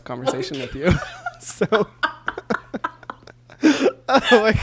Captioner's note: both laugh